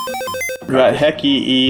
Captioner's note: beeping noises